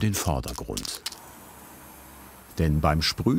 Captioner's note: quiet spraying